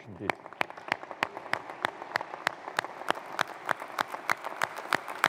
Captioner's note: audience applauding